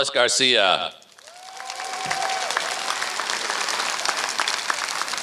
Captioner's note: applause